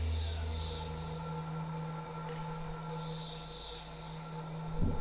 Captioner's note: voices whispering